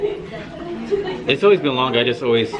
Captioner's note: students laugh